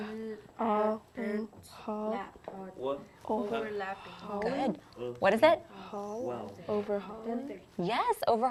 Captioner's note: students sounding out the words